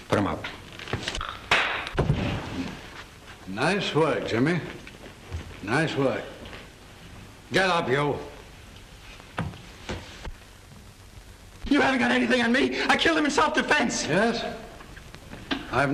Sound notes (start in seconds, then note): 1.4 slap cracks